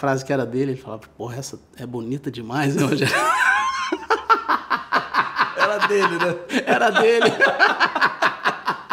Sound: laughs

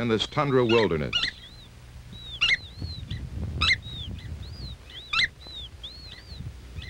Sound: chicks peeping

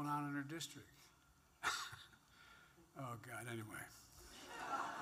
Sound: laughs; laughter

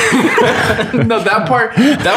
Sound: all laughing

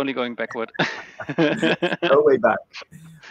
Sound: laughs

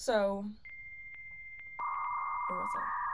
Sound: dial-up modem chirps

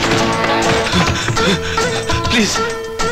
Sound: panting

